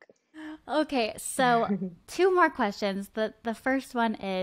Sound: giggles

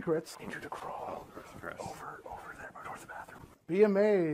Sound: whispering

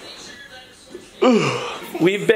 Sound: yawns

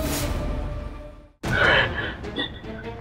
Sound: exhales

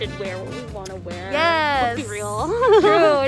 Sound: laughs

